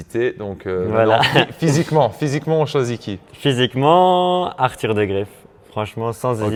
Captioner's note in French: rires